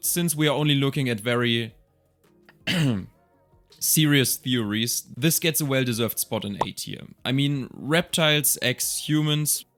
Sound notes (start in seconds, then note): 2.6 ahem